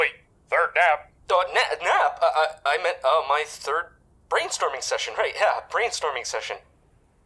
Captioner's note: stammers